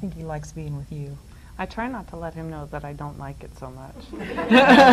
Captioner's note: audience laughs; laughs